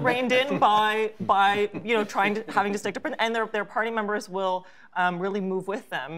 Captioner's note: laughter